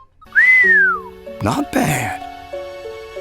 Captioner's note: whistles